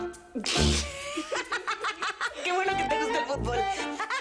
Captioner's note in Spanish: Ambos ríen